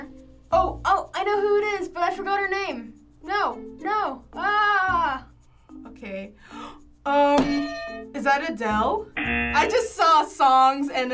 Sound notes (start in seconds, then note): 6.4 gasps; 9.2 buzzer; 9.2 bell rings